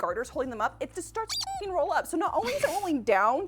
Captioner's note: squeak